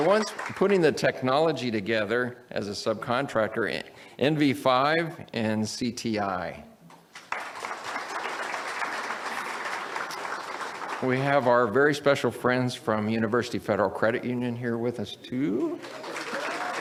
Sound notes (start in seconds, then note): 10.2 audience applauds; 15.6 audience applauds